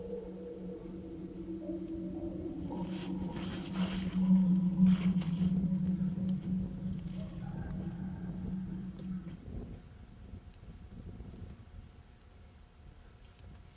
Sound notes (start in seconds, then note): 10.1 air whooshing